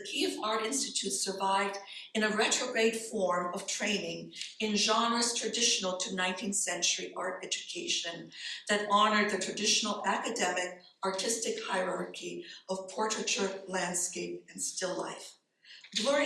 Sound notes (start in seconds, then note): none